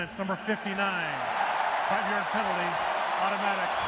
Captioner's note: cheering